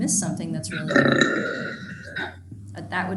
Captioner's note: growling drowns out speech